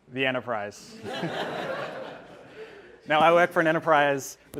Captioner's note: audience laughing